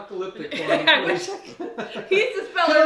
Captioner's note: laughing